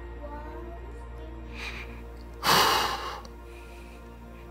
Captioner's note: man sighs, emotional